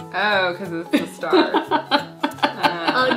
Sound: grandma laughing

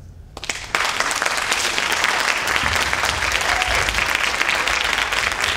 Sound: audience applauding and cheering

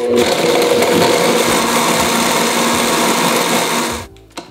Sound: mixer grinding

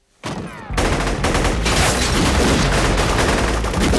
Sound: gunshots

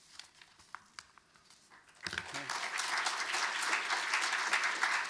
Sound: audience applauding

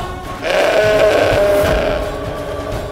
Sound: bull roars

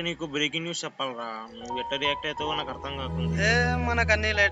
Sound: phone

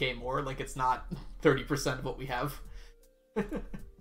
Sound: chuckles

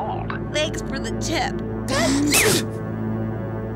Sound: sneezes

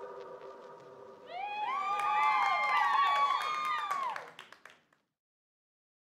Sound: applause

